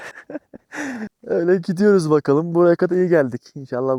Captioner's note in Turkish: kahkaha